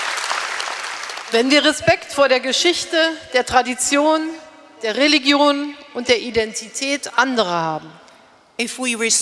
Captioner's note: applause; speaking in German